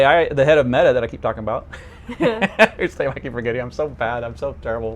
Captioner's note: laughs